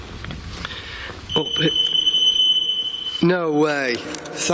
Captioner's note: digital beeping